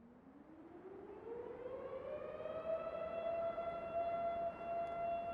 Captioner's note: faint siren humming